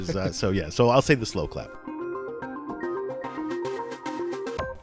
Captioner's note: voiceover